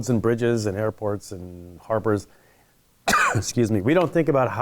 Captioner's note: coughing